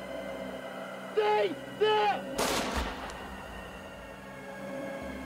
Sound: gunshot booming

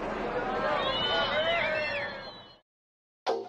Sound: cheering

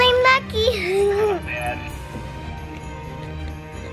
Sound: giggles

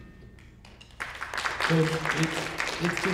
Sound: audience applauding

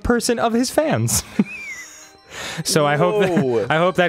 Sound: laughter

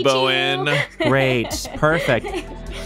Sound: laughing

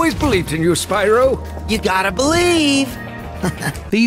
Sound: chuckles

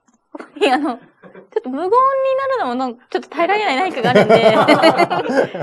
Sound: laughs

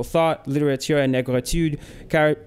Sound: speaks foreign language

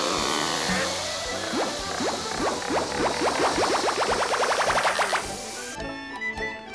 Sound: popping

